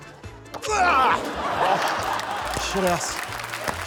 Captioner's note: laughter